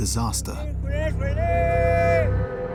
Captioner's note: shouts in Maya